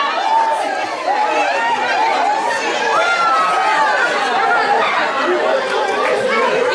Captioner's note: laughing, cheering